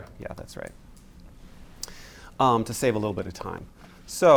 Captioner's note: none